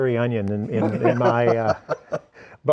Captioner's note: laughing